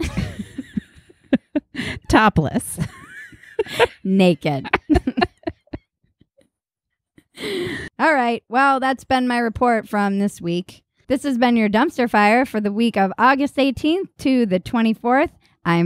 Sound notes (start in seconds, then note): 0.0 laughing; 4.4 both laughing